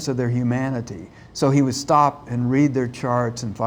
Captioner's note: imitates ventilator noise